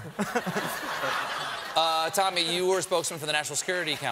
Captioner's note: laughter